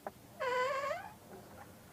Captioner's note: door squeaking shut